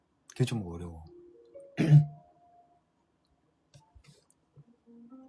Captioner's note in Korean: 목을 가다듬음